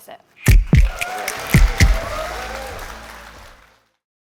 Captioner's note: applause